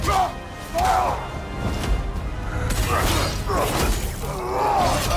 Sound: soft dramatic music; character grunting; fists thudding; weapons clanging; character grunting

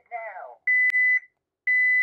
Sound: beeping

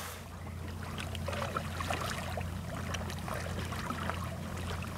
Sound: water splashing lightly

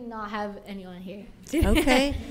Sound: people chuckle

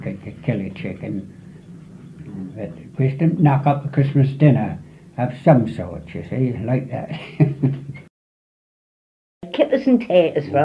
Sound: laughs

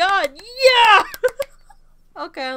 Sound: laughter

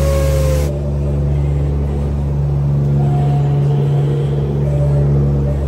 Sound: drone of boat motor

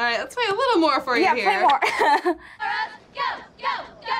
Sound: laughs

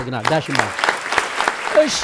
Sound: applause

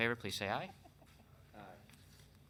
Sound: laughing

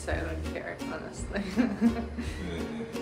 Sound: laughs

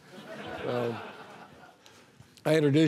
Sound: audience laughing

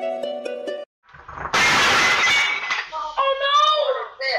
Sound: loud crash

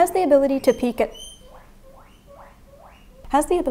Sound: indignant guinea pig squeaks

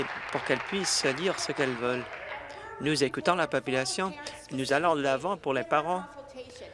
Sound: applause

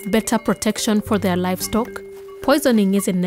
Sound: cow bells ring

